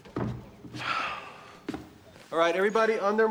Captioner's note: sighs